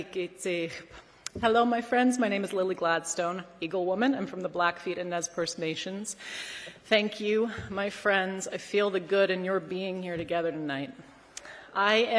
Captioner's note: speaking non-english language